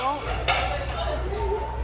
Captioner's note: more clatter